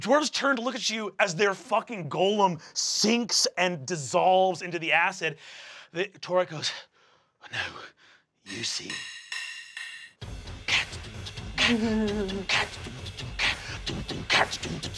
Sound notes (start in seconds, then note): 8.4 mimics drumming; 8.5 drumsticks clack; 11.6 Kristen chuckles